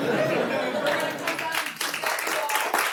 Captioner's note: applause